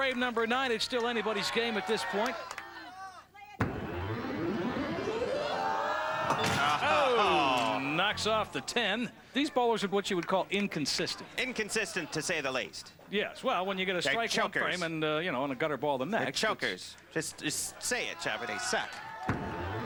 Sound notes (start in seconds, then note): 6.7 both groan